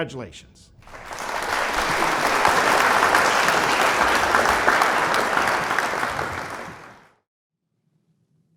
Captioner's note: applause